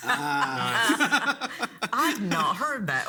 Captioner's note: people laugh